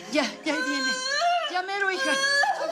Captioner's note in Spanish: Quejidos